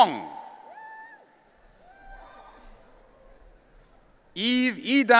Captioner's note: audience cheering